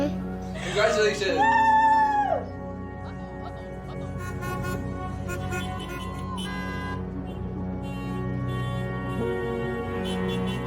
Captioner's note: car horns honking